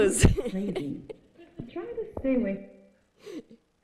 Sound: chuckling

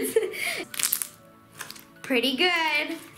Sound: laughing; crackling

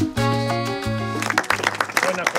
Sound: applause

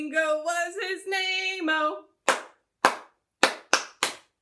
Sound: clap, clap, clap, clap, clap

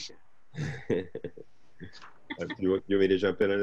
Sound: laughs

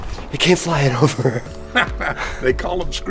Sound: laughs

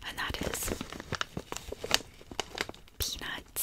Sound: crinkles

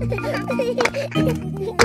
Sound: children laughing

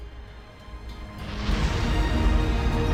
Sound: THUNDER RUMBLlNG

